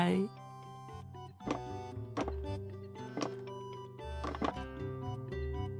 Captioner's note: clack, clack, clack